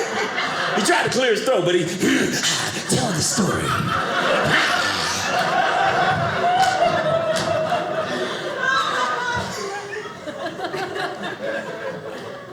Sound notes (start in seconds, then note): 3.7 audience laughing